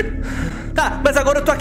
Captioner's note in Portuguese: Risos